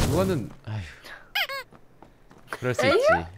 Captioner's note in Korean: 침묵